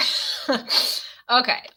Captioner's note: laughs